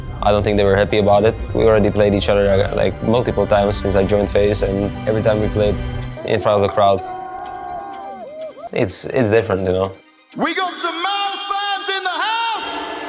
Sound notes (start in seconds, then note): 9.4 crowd cheering